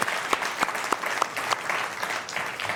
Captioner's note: applause